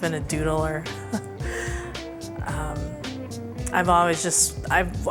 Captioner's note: chuckles